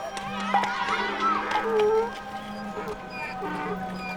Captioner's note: children chattering